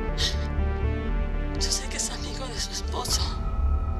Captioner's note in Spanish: Sollozos